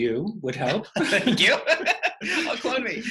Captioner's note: laughter